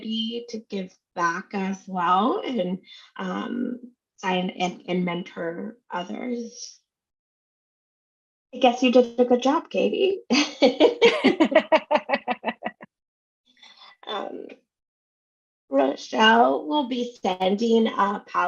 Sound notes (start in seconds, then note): 11.0 laughs